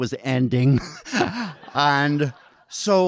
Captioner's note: audience laughing